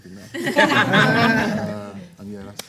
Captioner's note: everyone laughs